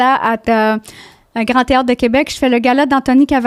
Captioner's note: in french